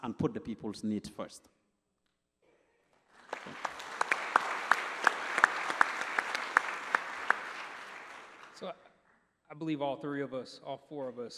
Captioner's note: applause